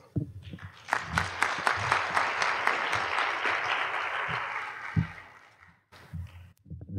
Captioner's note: applause